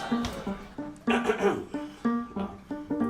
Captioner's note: clears throat